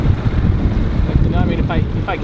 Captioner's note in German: Wind bläst